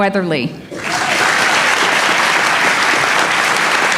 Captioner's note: applause